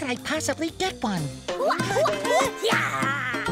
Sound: grunting

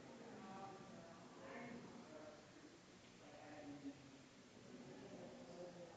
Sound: people chattering distantly continues

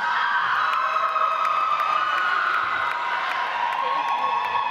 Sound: audience applauds

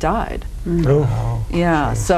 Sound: gasps

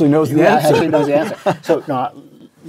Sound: laugh

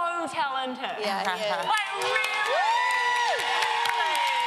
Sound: audience applause

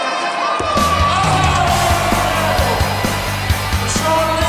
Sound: cheers and music

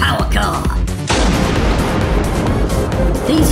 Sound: heavy Thunder

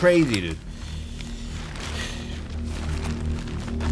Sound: deep breath

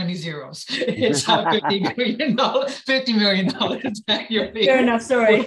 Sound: laughter

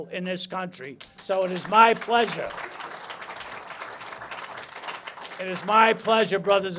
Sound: applause

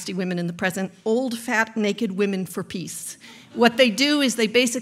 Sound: audience laughs

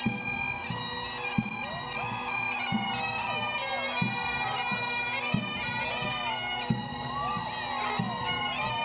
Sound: cheering

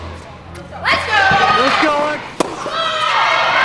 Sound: audience cheers

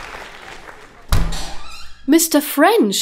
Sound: door opens

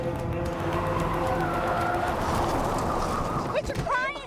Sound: tires screech

